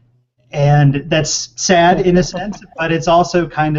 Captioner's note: laughter